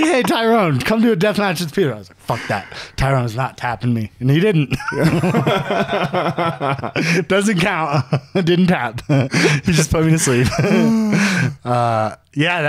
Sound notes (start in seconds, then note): 4.8 laughing